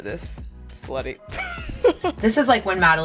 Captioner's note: laughs